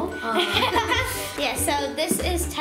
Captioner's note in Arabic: وكلاهما يضحك